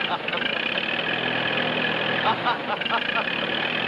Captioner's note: laughs